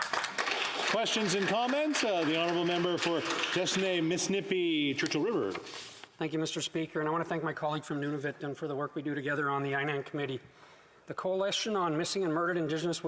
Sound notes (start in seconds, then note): 3.4 speaking Indigenous Language; 3.8 applause